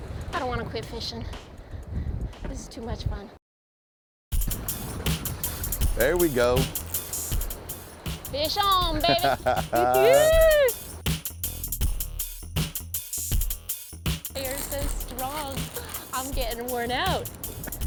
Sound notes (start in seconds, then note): 8.9 both laughing